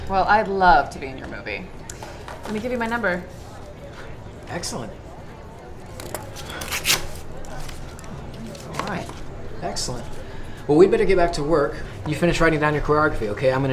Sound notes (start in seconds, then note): 5.9 paper rips